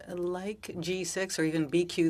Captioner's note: speaking French